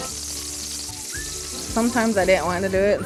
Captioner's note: grease sizzle